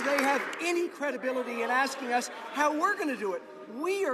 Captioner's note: some Applause